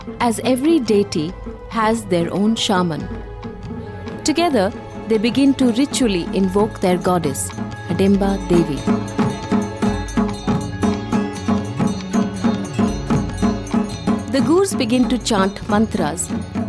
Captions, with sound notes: as every deity has their own shaman. (soft sombre music) Together, they begin to ritually invoke their goddess, Hadimba Devi. (bell jingling) (soft druming) The Gurs begin to chant mantras